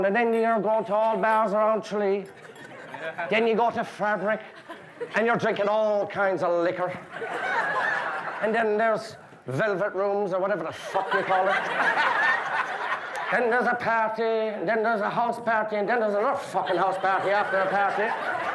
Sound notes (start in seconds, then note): 6.8 guests laughing; 10.7 guests laughing; 18.3 guests laughing